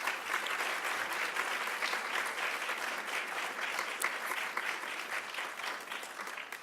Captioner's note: applauds